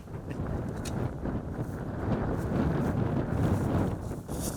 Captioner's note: wind blowing